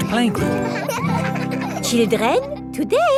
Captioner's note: children laughing